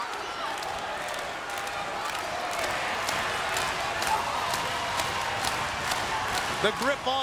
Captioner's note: applause